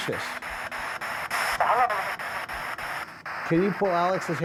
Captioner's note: spirit box voice